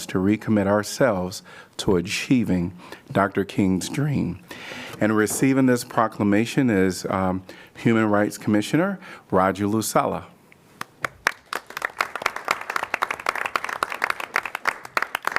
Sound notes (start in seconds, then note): 10.8 applause